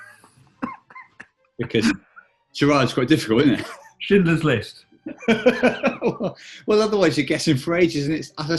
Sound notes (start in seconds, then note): 0.1 giggling; 5.0 laughing